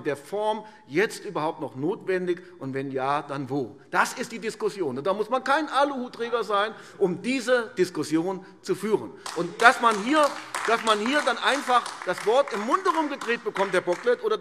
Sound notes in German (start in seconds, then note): 9.2 Beifall AfD